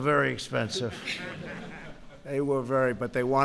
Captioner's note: laughter